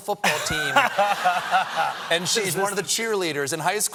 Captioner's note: laughter